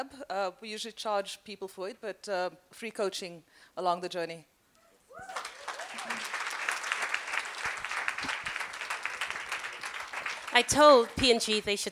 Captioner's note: applause